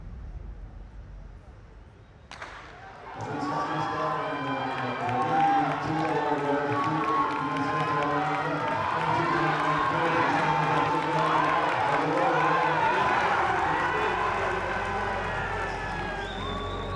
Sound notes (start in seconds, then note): 2.4 cheers